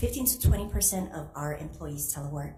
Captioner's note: none